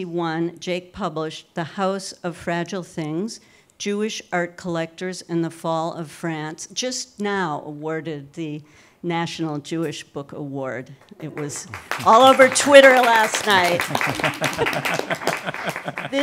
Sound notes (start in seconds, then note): 11.1 audience clapping; 14.7 laughing